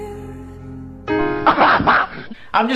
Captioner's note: laughing